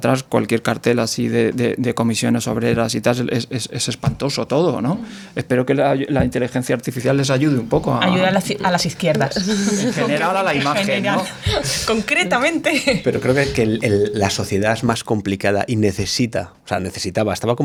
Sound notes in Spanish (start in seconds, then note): 12.4 risas